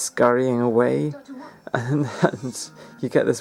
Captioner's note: laughing